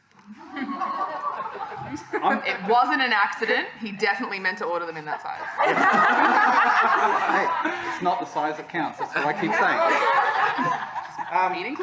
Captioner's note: clamouring